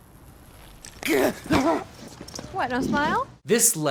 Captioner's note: cries out